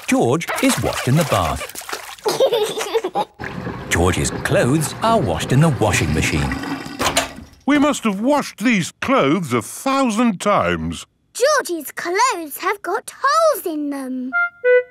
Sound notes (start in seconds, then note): 2.2 giggling